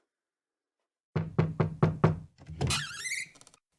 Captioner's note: 5 knocks; door squeaks